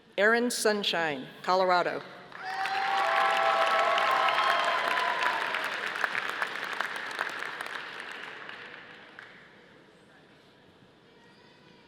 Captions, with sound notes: Erin Sunshine, Colorado. (audience applauding)